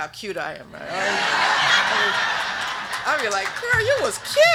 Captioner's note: group laughing